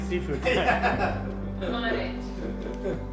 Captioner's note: background laughing